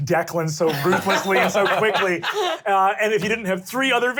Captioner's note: all laugh